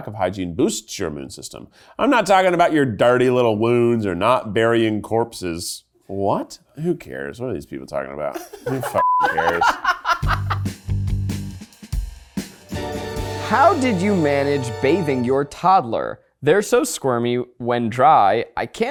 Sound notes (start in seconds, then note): 9.0 beep; 10.8 bright music